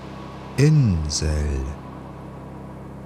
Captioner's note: german